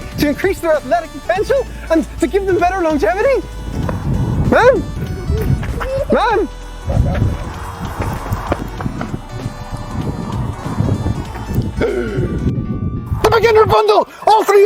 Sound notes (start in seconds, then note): 7.1 electronic music; 11.8 gasp